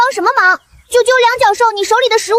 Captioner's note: chirp